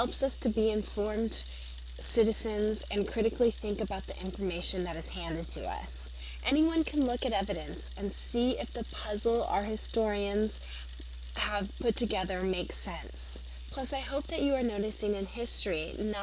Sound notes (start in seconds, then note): 4.8 Arabic; 6.4 Vietnamese; 14.8 Arabic